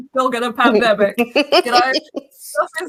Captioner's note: laughs